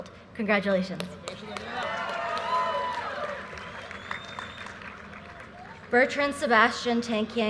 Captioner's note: audience cheers and applause